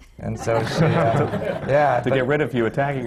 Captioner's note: laughter